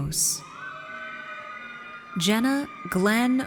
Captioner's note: audience cheers